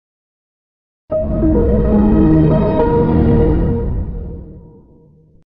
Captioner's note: Lowest Windows XP startup sound